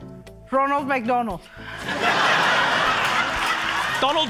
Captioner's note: laughter